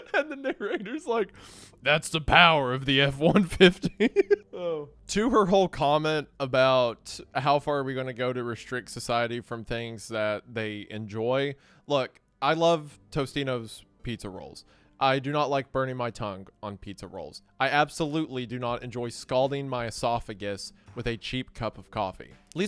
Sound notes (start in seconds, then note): 3.2 chuckles